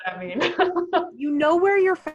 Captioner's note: laughing